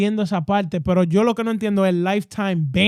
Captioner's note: speaking In Foreign Language